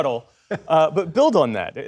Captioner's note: laughter